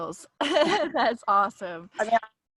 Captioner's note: laughs